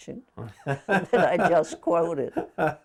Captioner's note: laughing